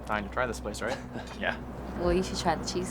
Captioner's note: laughs